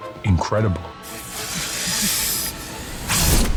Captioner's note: hissing